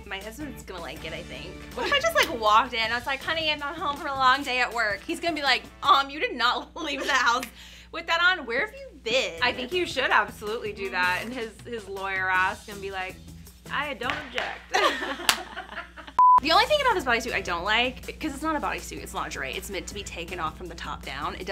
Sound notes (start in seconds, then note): 14.4 gavel bangs; 14.7 girls laugh; 16.2 screen beeps